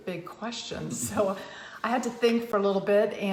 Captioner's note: laughs